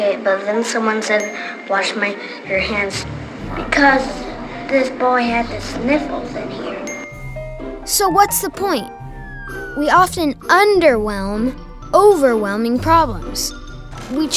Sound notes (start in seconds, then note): 6.8 ding sound